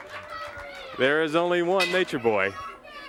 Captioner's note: crowd cheering